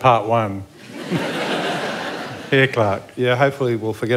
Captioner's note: laughter